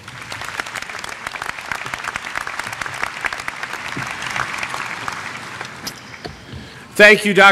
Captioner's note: applause